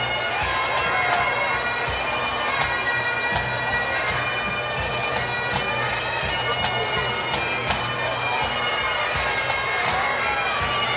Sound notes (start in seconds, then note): 4.1 cheers and Applause